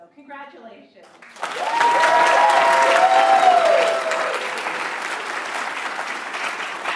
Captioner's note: attendees cheering and applauding